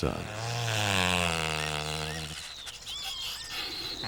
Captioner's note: bustard calls